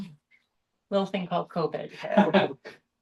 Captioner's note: laughter